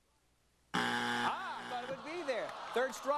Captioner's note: buzzer